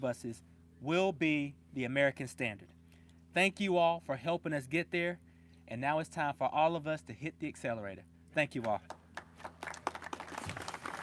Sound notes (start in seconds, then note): 8.6 applause